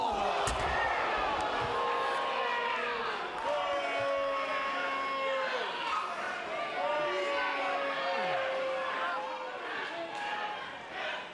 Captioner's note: crowd chatter